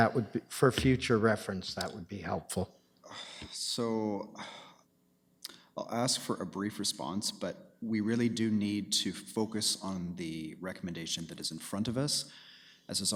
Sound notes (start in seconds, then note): 3.0 sighs; 5.8 sighing